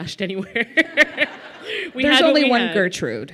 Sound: laughter

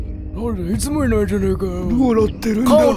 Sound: old raspy voice

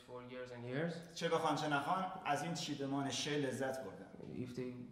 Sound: speaking in farsi

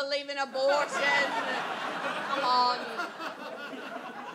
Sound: audience laughs

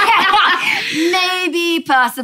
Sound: laughs

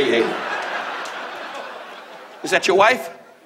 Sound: audience laughs

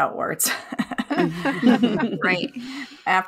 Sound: hosts chuckle

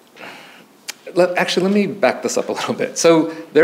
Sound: chuckles

